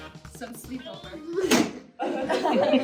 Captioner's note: thud; audience laughter